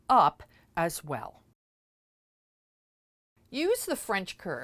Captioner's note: no Sound Present